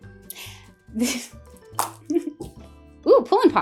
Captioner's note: giggling